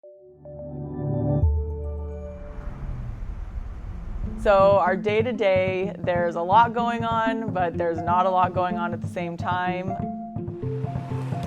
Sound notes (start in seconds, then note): 2.0 engine hums